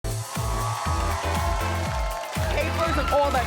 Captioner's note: upbeat music; crowd cheering